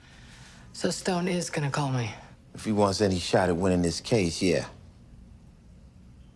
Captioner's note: none